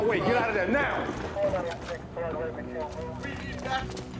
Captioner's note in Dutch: stem over de radio